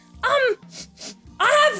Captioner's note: sniffs